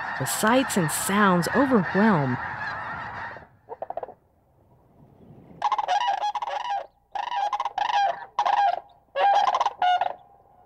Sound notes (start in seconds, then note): 5.6 birds squawking